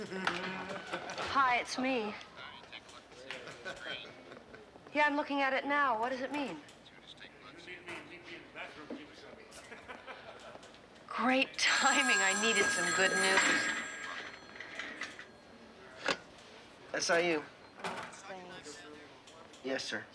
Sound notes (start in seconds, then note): 0.0 laughing; 9.6 laughing; 11.6 phone ringing